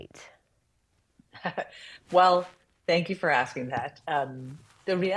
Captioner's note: chuckles